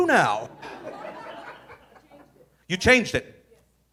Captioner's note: audience laughing